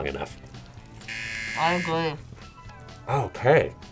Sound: buzzer

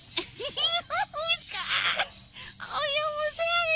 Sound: laughing

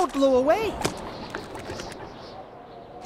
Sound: blowing of wind

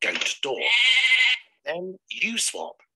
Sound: goat bleats

